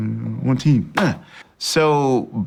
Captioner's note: hands clap